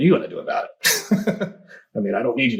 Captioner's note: laughs